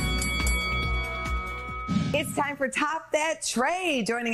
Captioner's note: bell rings